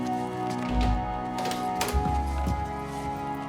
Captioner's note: sound of door opening